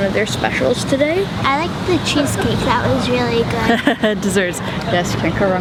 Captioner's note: laughs